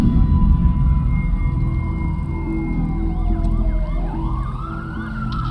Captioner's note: sirens